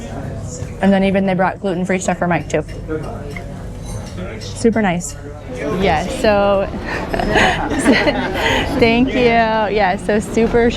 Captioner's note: laughter